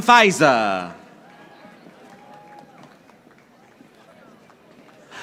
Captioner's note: audience applauding